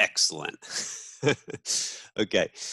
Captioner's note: laughs